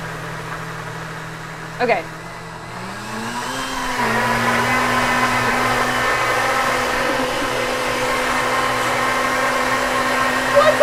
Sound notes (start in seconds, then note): 3.6 blender whirring